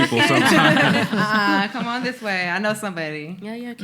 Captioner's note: laughing